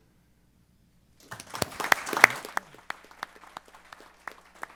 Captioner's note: applause